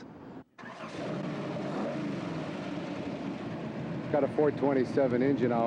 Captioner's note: engine revving